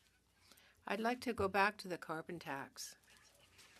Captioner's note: speaking French